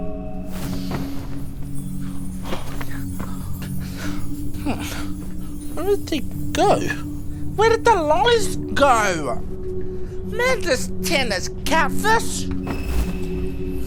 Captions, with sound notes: (MAGICAL TINKLING) - Humph. Where'd they go? Where did the lollies go?! Man, this tent is catfish.